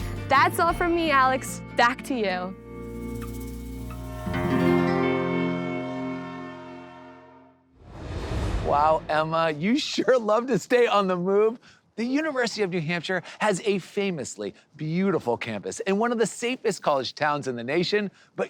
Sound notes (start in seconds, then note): 2.7 gentle acoustic music; 5.2 train horn